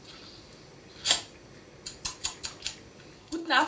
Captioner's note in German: Schmatzen